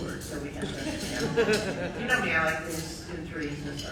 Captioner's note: audience laughs